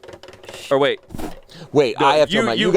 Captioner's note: wheel clicking